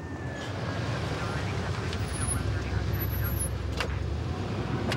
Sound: mumbled police radio

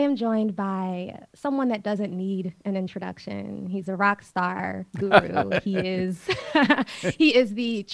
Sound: both laugh

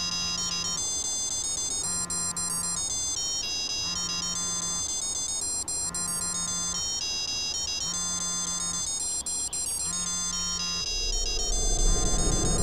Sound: " " ringtone playing

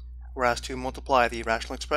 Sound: voiceover

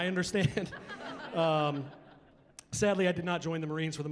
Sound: chuckling

